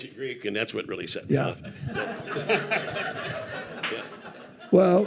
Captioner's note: audience laughing